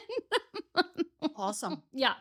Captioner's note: laughs